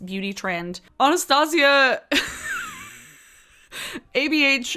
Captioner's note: chuckles